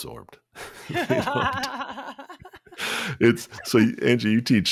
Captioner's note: laugh